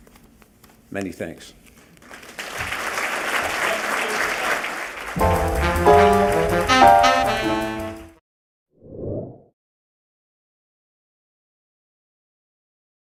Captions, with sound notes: Many thanks. [ Clapping and music ]